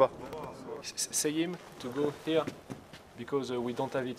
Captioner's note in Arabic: الصوت المنطوق باللغة الإنجليزية